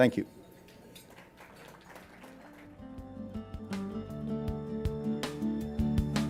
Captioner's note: applause